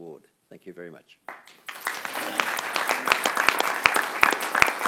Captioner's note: clapping